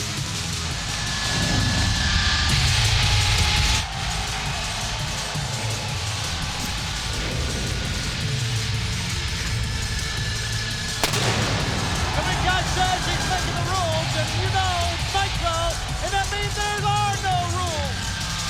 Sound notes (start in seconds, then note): 0.1 energetic music; 6.7 pyrotechnics bursting